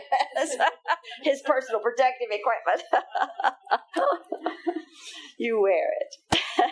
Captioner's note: laughing; laughing